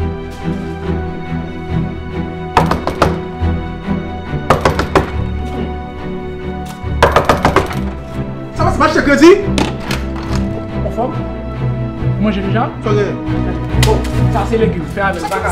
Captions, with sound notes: (KNOCKING ON THE DOOR) (KNOCKING ON THE DOOR) (KNOCKING ON THE DOOR) -Did I buy with credit? Did you eat already? What's wrong? Here's some legume, eat it. Vagabond!